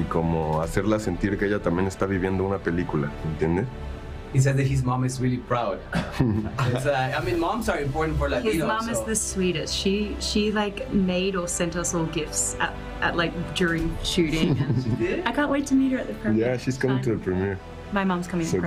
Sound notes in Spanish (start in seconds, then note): 8.5 habla en ingés; 12.2 risas